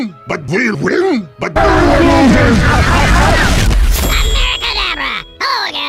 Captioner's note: laughs Maniacally